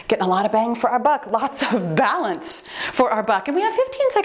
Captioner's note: timer beeps